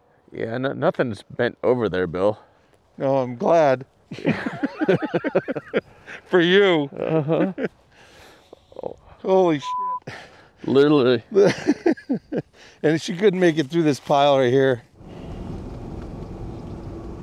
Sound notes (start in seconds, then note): 4.0 laughing; 9.6 beep; 11.2 laughing